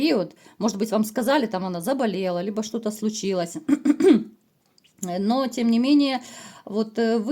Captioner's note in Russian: откашливается